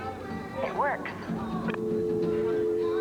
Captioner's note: click